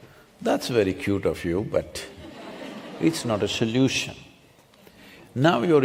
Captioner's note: few laugh